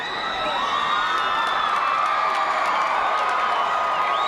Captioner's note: crowd cheers